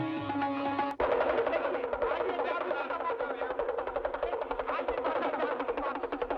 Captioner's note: speaking Hindi